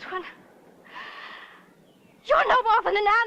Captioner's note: taking breath